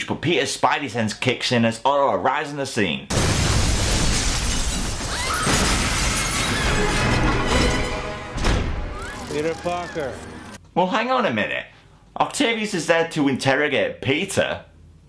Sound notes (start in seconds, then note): 3.1 sound of window crashing; 5.0 screams